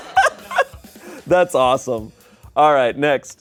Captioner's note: laughs